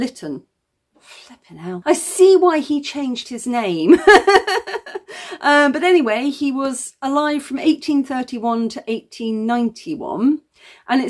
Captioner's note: laughing